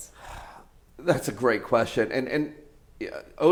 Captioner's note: sighs